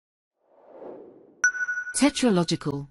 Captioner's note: logo whooshes in